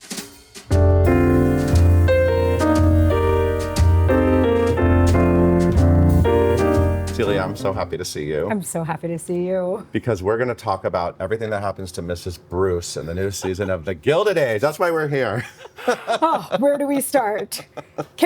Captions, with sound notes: (jazz music) - Celia, I'm so happy to see you. - I'm so happy to see you. - Because we're gonna talk about everything that happens to Mrs. Bruce in the new season of "The Gilded Age." That's why we're here. (laughs) - Oh, where do we start?